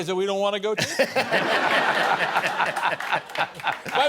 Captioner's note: laughter